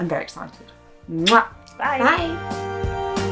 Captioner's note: kissing